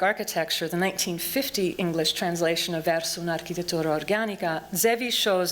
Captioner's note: non-english speech